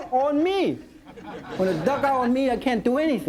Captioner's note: audience laughing